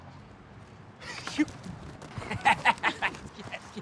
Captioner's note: laughs